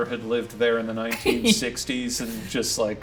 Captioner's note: Ryan chuckling